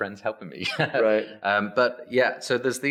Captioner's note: laughs